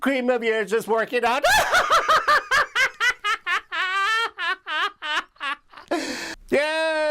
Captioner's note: laughs